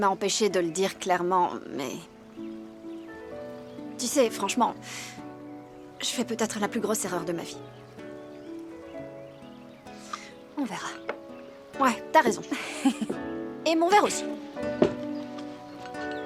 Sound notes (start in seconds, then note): 12.4 laughing